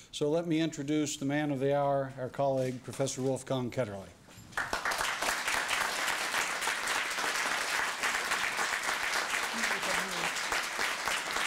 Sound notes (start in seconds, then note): 4.5 applause